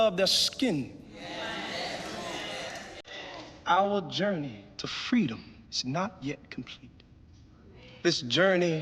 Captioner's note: crowd murmurs in agreement